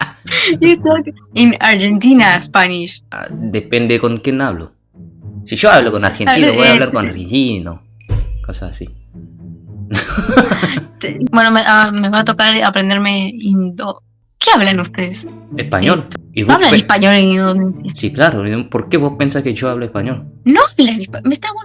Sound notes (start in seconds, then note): 4.8 Spanish; 7.8 Spanish